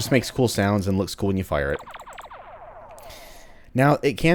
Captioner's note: pew pews some more